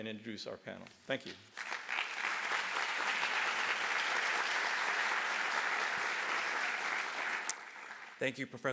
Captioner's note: applause